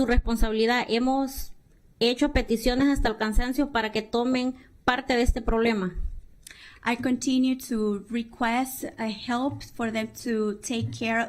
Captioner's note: speaking spanish